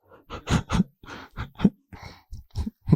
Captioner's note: laughs